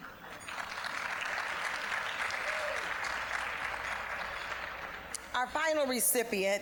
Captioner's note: applause